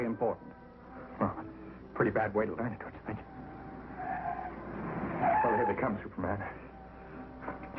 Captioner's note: sound of tires screeching